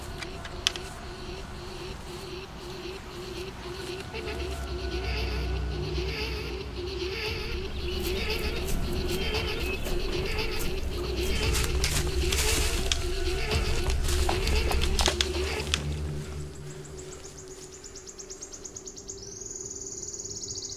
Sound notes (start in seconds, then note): 0.3 creepy music intensifies; 8.1 footsteps rustling; 16.6 birds chirping